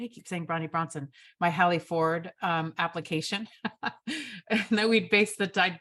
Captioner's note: chuckles